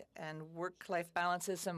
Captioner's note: speaking French